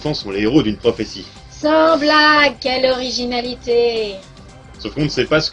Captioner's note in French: ironie